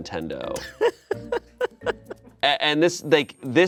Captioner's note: laughs